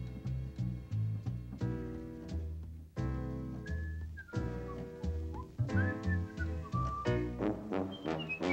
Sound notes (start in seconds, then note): 3.3 whistles